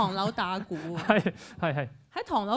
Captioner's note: laughs